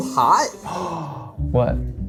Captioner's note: gasps